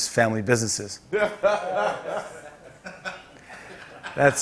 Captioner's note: laughter